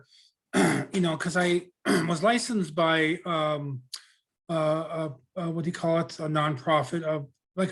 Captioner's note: clears throat